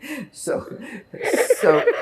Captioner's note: laughing